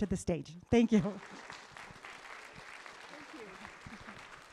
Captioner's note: applause